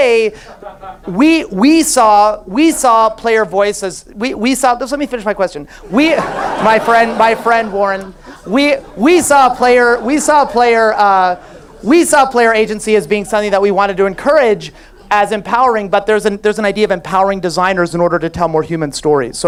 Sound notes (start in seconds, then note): 5.8 audience laughs